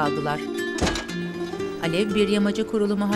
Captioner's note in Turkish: Kapı kapanma sesi